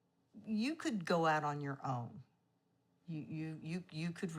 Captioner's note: none